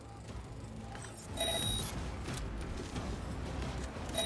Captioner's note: ringing; ringing